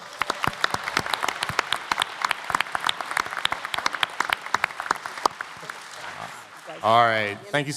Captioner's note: applause